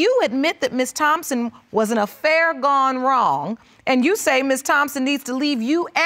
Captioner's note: none